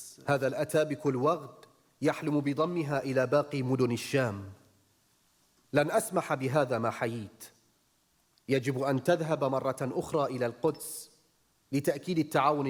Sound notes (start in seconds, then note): 0.7 speaking arabic